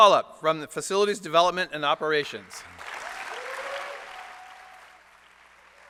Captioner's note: applause